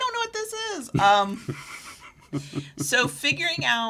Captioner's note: laughs